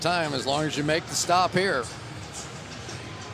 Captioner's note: none